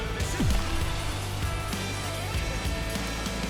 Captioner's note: thrilling sound effect